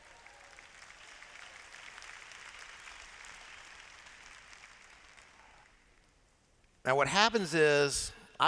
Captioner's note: applause